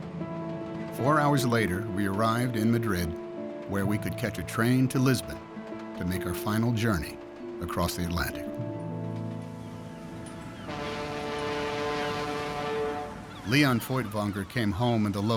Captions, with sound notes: 4 hours later, we arrived in Madrid, where we could catch a train to Lisbon to make our final journey across the Atlantic. [Ship horn blows] Lion Feuchtwanger came home in the lower berth